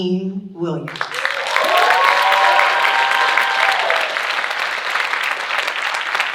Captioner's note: audience cheering and applauding